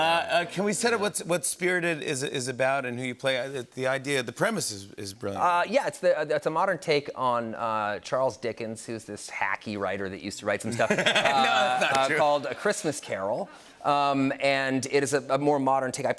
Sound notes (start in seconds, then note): 10.7 laughter